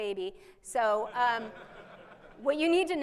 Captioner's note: laughing